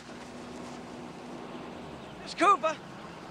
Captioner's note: car engine revving